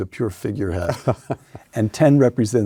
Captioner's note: Paul laughs